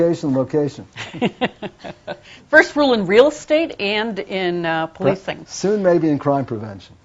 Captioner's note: laughs